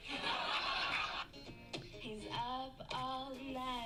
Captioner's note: audience laughing